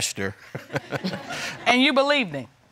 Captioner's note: crowd laughing; laughs